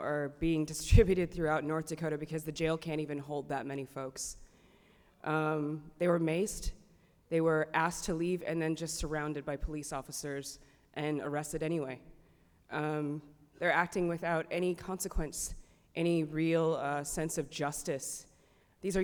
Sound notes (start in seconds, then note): none